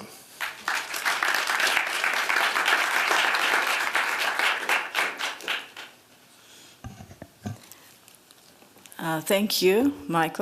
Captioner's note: audience claps